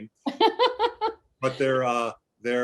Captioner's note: laughter